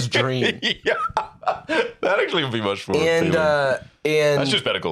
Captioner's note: laughing